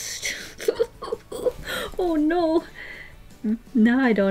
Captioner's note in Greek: χαχανητά